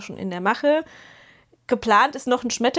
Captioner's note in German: japst